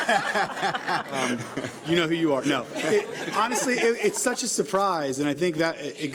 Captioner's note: laughter